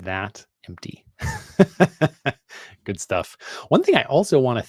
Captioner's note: laughing